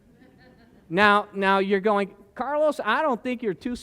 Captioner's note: laughter